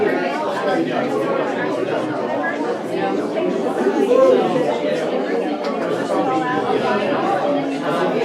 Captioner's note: crowd murmering